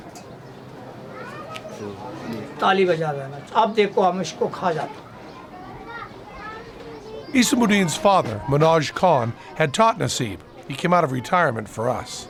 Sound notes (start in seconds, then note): 2.1 non-english speech